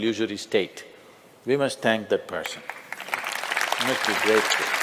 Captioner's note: applause